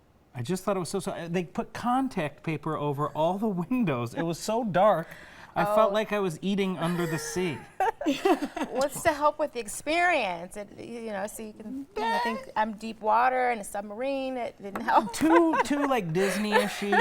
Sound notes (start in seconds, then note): 7.3 laughing